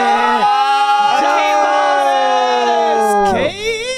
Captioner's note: group cheering